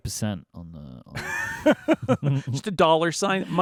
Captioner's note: both laughing